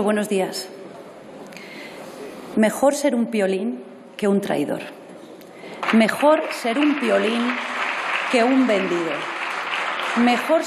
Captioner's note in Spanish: aplausos